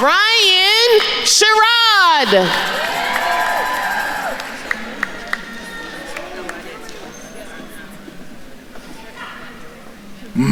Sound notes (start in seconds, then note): 2.6 attendees cheering and applauding; 6.5 attendees chattering